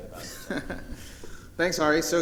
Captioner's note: chuckling